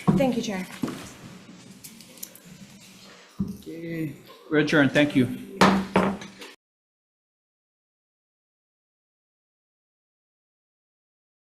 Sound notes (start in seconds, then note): 5.6 gavel pounds